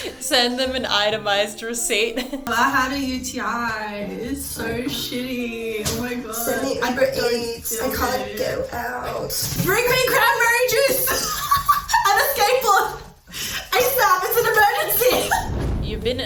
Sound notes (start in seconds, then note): 0.0 chuckling; 10.8 laughing